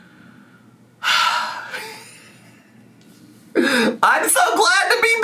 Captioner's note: sighs; laughs